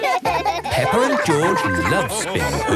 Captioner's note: both laugh